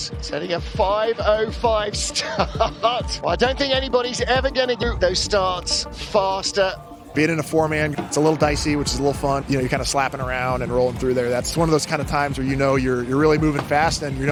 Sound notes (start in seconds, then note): 1.8 laughs; 3.5 warm synth music; 9.3 crowd cheering; 13.5 warm synth music